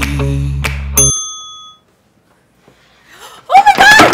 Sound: bell dings

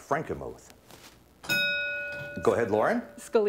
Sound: ding

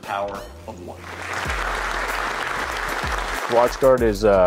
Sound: applause

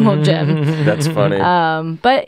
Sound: laughs

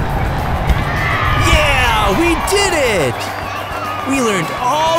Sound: crowd cheers

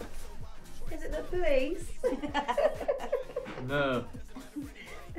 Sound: girls giggle

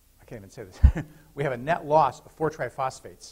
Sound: laughter

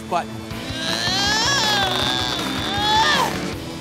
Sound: whining

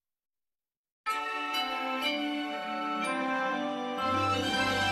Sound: digitally-remastered chime plays

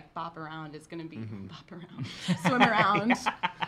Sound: laughing

